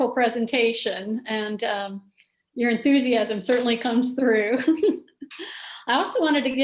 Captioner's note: chuckles